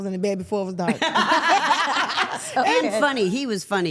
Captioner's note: all laughing